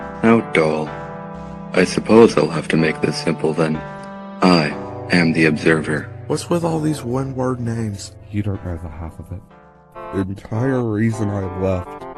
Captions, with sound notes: How dull. I suppose I’ll have to make this simple then. I am the Observer. - [whispering] What's with all these one word names? - [whispering] You don't know the half of it. - Entire reason I left.